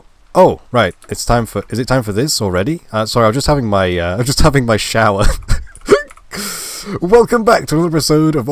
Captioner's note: laugh